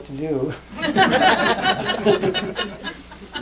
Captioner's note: laughter